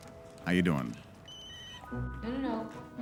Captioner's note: cell phone rings